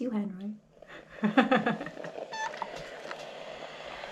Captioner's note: chuckles